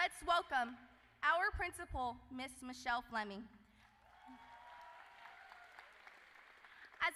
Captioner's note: cheers and Applause